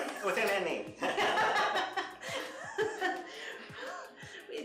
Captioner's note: laughter